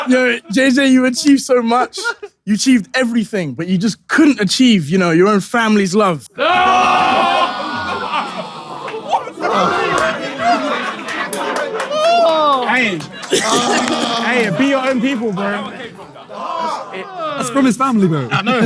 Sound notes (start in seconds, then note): 6.6 people in room laughing and yelling; 13.3 KSI groans